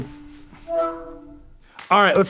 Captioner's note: beeping; ringing